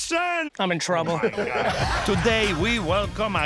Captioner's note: laughing